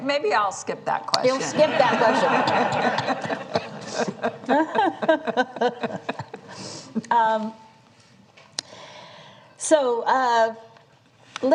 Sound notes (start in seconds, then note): 1.3 laughter